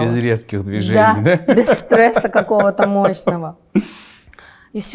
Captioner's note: laughs